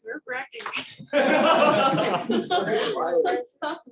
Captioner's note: laughter